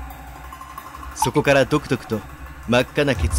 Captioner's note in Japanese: 血の滴る音：ポタ